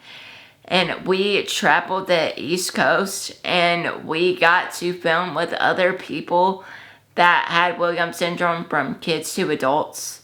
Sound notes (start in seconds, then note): none